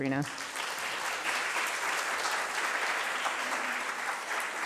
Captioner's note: applause